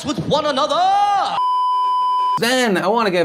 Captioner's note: beeeeeeeeeeeep